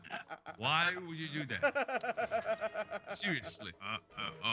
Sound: laugh

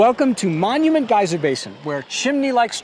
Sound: chimneys hissing

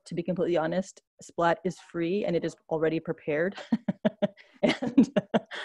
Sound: laughs

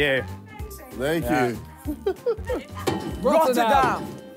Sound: laughs

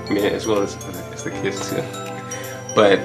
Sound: laughs

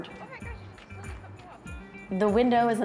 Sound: indistinct chatter

